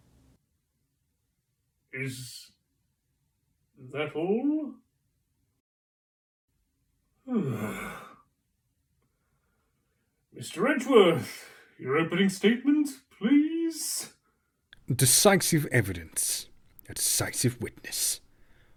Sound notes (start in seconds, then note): 7.3 sighs